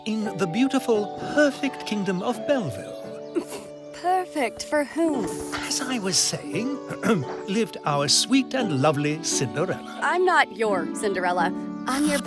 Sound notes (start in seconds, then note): 4.6 scoffs